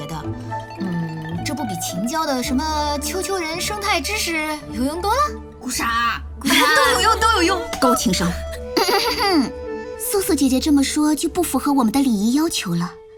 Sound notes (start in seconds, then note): 8.6 cough